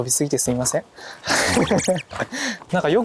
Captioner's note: laughing